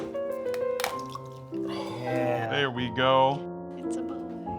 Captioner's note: coconut milk splashing